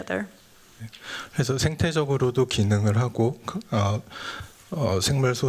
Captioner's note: speaking japanese